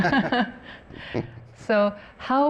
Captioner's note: laughter